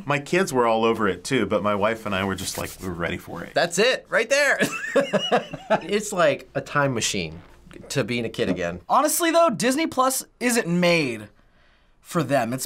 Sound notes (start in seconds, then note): 4.6 laughs